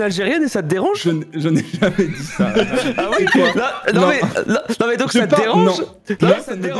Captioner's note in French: ça bégaye fort